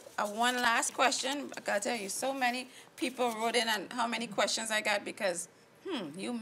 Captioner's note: hmm